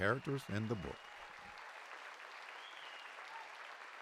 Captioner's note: applause